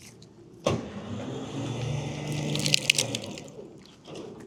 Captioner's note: machinery humming